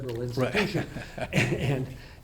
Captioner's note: laughs